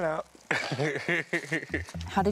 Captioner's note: laughs